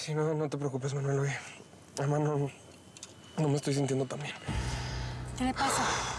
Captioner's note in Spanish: exhala